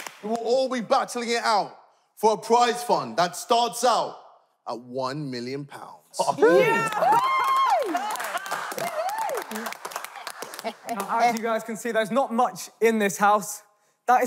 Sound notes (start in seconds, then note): 6.4 contestants cheering